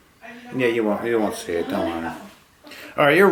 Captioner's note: male Voice